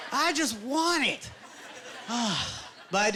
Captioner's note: sighing